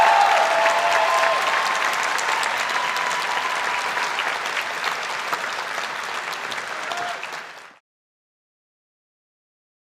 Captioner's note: applause